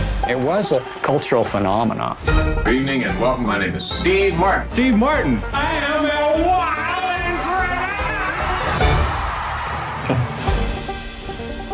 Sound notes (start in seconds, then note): 8.8 Steve chuckles; 8.8 audience cheers